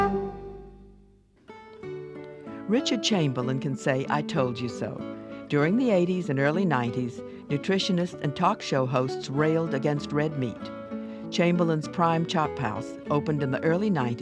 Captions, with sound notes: - [Voiceover] Richard Chamberlain can say, "I told you so." During the '80s and early '90s, nutritionists and talk shows railed against red meat. Chamberlain's Prime Chop House opened in the early '90s,